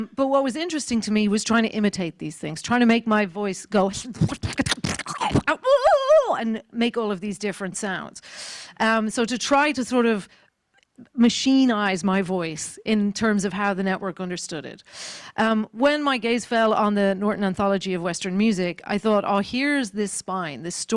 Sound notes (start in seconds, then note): 4.8 screeching